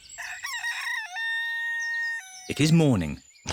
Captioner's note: rooster crows